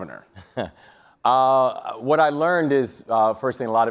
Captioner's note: chuckles